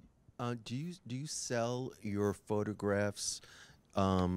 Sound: voiceover

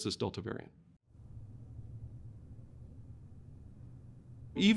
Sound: silence

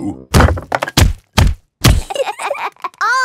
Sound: banging

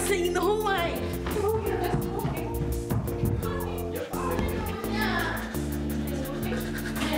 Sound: girls chatter

